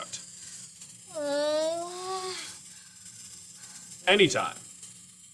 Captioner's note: stressed noises